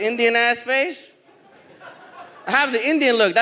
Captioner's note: audience laughs